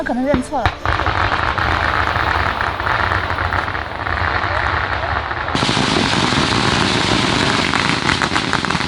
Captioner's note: firecrackers